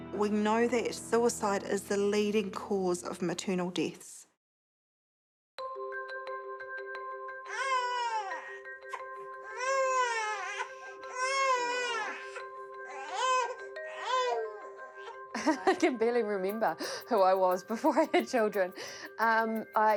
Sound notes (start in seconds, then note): 5.5 pensive music; 7.5 baby cries; 12.8 continues crying; 15.3 laughs